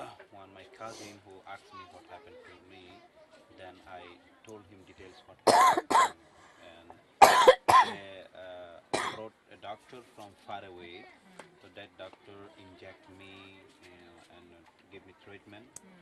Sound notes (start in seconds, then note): 5.4 coughs